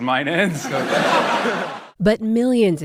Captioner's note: laughter